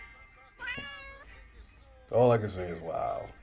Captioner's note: cat meowing